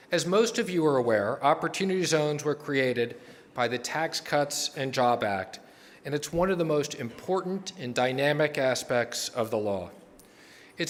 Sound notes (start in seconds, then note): none